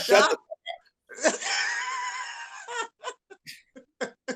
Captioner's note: laughs